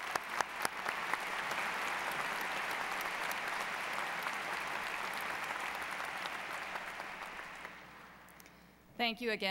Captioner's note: applause